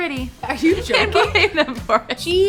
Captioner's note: laughs